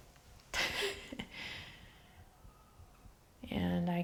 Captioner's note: laughs